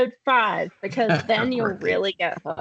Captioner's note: laughing